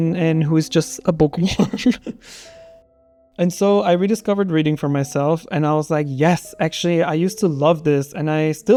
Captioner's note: laughter